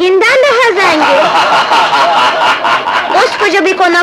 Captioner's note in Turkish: Çevreden kahkahalar